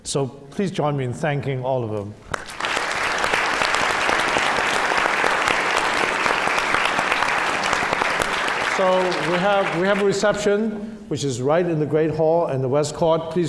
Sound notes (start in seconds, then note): 2.3 applause